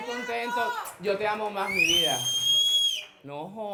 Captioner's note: cheers